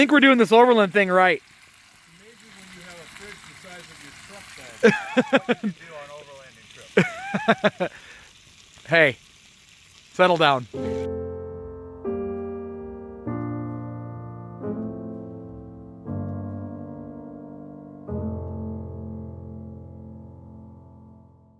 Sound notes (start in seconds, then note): 4.8 laughing; 11.3 relaxing music